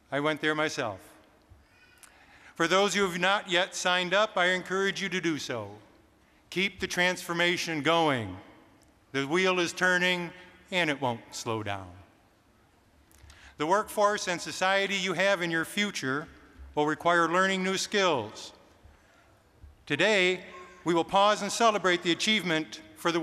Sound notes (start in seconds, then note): none